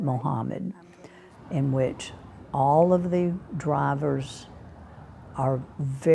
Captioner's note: traffic humming